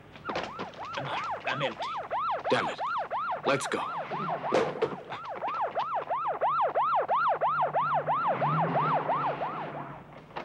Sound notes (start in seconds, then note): 0.3 siren wailing; 4.2 siren wailing